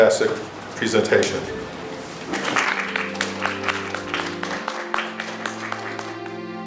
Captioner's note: applause